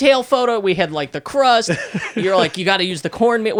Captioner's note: laughing